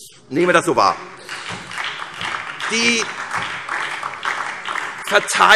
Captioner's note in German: Beifall SPD und DIE LINKE